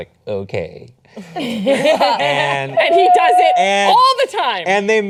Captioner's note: laughing